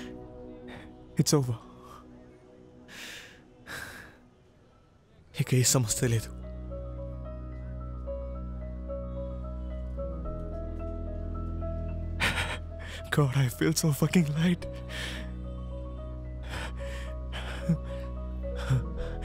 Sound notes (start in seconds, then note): 3.6 sighs